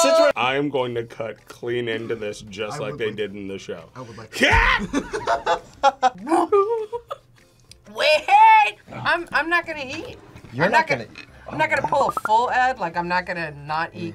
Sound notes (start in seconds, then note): 6.9 laughs